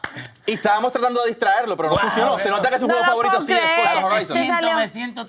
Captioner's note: talking in foreign language